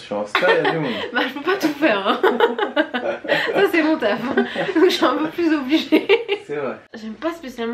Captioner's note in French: rires